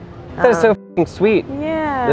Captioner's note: beep